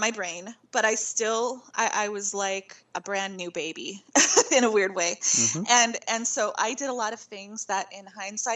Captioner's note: laughing